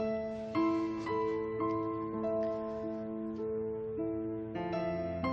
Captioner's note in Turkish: none